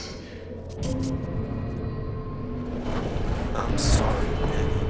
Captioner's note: static crackles